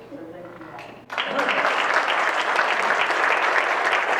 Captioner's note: crowd claps